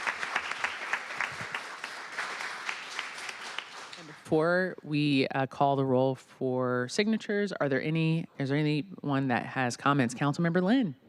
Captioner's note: applause